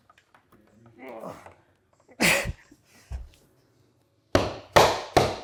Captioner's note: grunts; hammer thudding